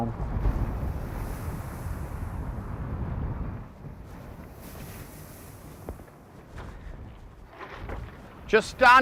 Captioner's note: waves softly crashing